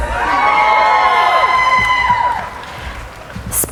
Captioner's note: cheering